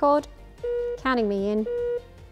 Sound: beep

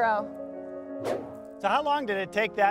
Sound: air whooshes

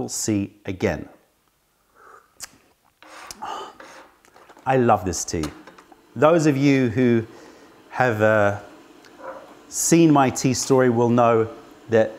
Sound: sips tea

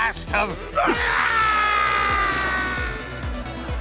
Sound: screaming

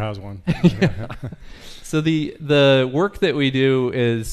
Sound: laughs

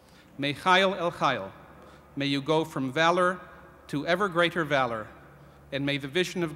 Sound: hebrew

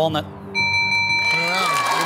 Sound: bell dings

